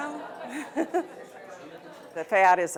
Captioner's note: laughter